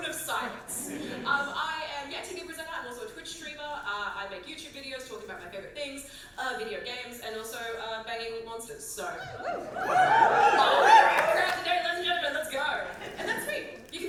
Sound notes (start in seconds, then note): 9.4 audience whoop